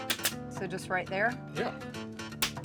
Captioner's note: stapling